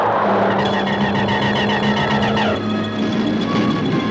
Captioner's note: zapping